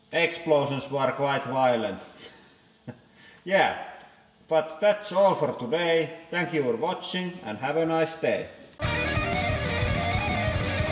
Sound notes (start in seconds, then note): 2.7 chuckles; 8.8 outro music